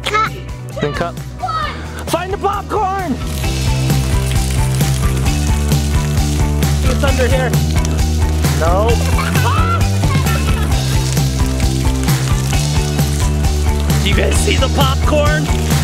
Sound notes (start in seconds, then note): 3.6 upbeat music; 9.0 screaming and laughing; 15.6 upbeat music